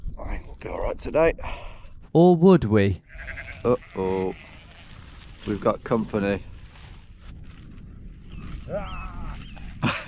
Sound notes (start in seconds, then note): 3.0 sheep baaing